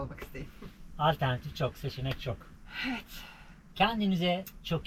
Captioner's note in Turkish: iç çeker